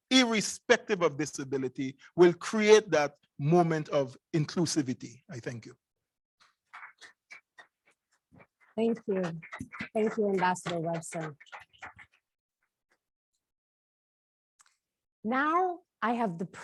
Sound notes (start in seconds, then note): 12.8 applause